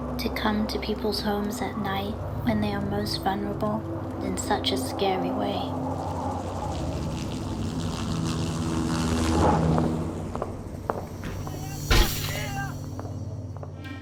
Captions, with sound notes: To come to people's homes at night when they are most vulnerable, in such a scary way. [helicopter engine roaring]